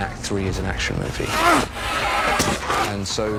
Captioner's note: grunting